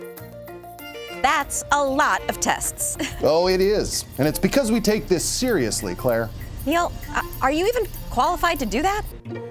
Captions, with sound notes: That's a lot of tests. (chuckling) - Oh, it is. (thoughtful music) And it's because we take this seriously, Claire. - Neil, are you even qualified to do that?